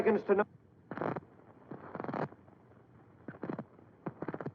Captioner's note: static buzzing